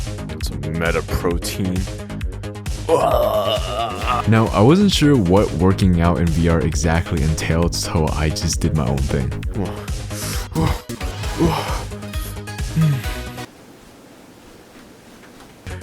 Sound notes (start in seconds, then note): 10.1 breathes; 11.3 pants; 12.7 grunts